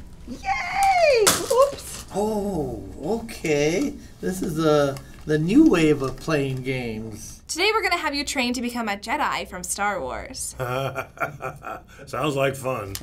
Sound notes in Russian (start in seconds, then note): 0.8 наушники падают; 10.6 смеётся